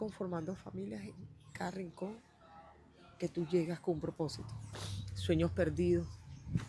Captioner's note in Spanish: resoplido